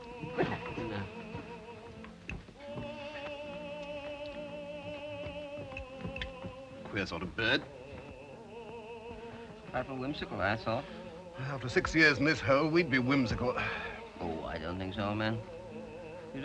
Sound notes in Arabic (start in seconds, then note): 2.0 غناء أوبرا; 13.6 تنهدات